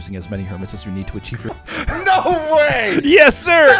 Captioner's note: laughs